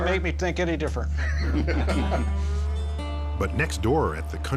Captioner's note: laughing